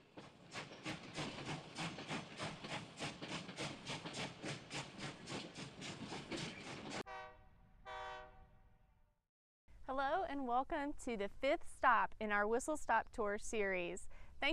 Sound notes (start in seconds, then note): 0.0 train chugging; 7.8 train whistle blows